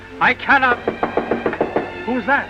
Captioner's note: knocks on door